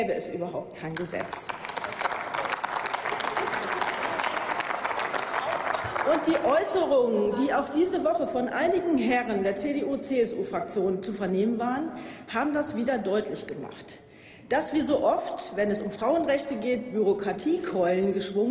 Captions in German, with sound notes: gäbe es überhaupt kein Gesetz. (Applaus) Die Äußerungen, die in dieser Woche von einigen Herren der CDU/CSU-Fraktion zu vernehmen waren, haben das wieder deutlich gemacht. Dass oft, wenn es um Frauenrechte geht, Bürokratiekeulen